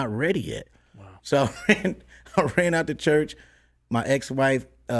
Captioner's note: laughs